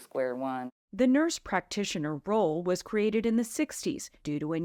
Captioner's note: voice-over